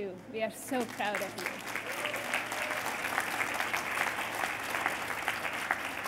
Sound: applause

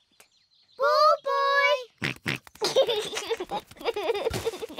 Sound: snorts and laughs

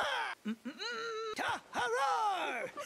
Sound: humming

